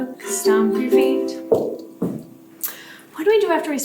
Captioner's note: feet stomp